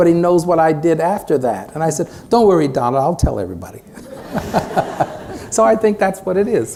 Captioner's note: laughter